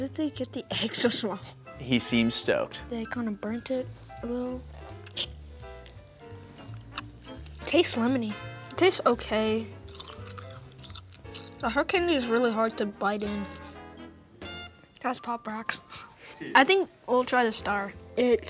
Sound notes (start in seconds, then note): 9.7 chewing the sugar stick; 16.1 chuckles